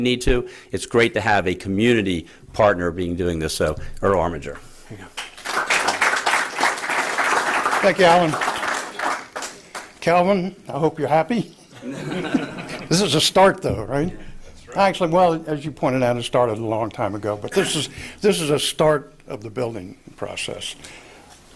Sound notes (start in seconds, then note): 7.8 applause